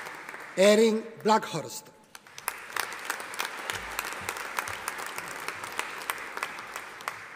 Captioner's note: audience applauding